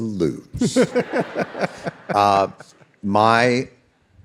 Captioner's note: David and audience laughing